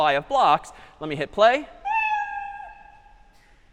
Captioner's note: meow